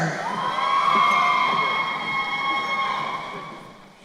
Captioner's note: crowd cheering